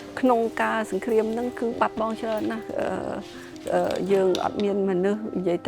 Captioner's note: speaking foreign language